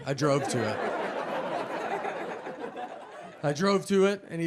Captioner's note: audience laughing